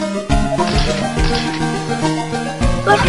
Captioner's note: step